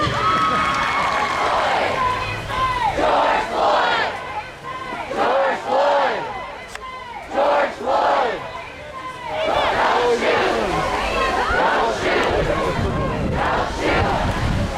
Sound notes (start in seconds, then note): 0.1 crowd cheers; 3.1 crowd; 7.3 crowd; 11.9 crowd; 13.6 crowd